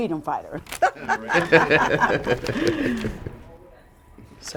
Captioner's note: laughing